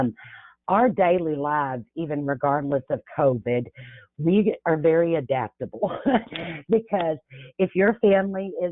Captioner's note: chuckles